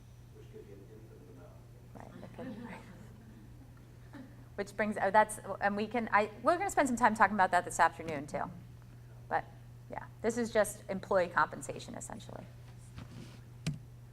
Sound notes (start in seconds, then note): 0.2 voiceover; 2.1 audience laughs